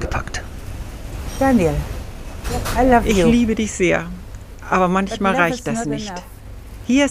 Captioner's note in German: englisch